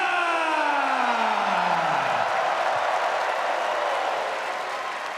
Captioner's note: crowd cheering